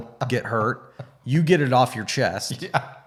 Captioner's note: laughing